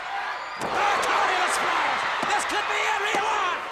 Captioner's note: audience cheers